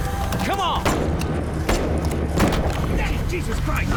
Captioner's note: gunshots